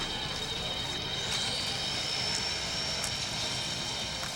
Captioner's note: saw buzzing